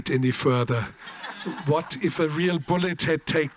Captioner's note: audience laughs